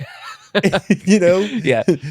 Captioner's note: laughter